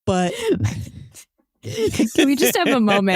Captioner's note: laughs